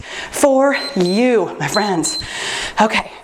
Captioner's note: timer beeps